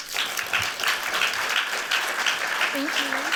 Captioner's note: applause